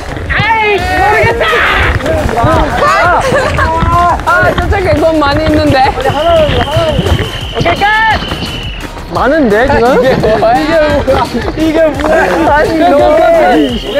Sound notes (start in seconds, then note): 4.1 flapping; 5.0 splashing